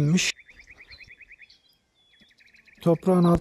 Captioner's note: bird sounds